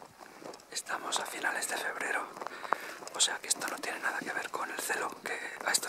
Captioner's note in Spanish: susurrando